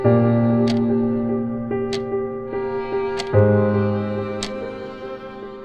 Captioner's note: clock ticks